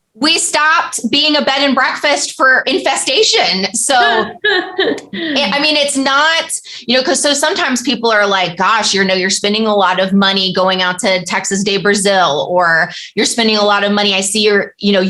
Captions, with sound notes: We stopped being a bed and breakfast for infestation. [laughter] I mean, it's not, you know, because so sometimes people are like, "Gosh, you know, you're spending a lot of money going out to Texas de Brazil," or, "You're spending a lot of money, I see